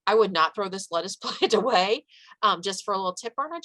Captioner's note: chuckles